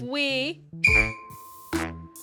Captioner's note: blows whistle